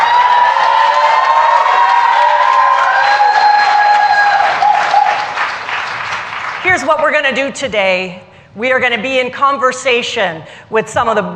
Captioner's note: cheers and applause